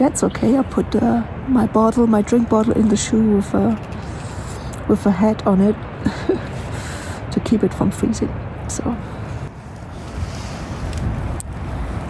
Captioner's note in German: lacht